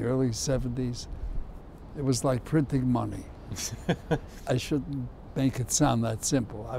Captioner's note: laughs